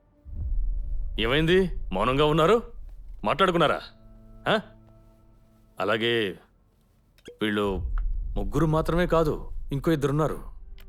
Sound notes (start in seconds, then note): none